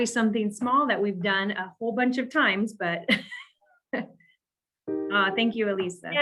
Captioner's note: chuckles